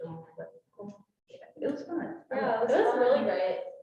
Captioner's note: speaking faintly